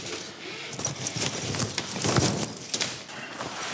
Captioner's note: fabric rustling